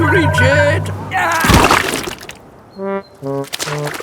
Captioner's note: groans